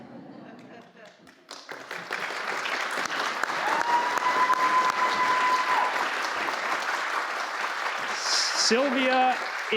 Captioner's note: applause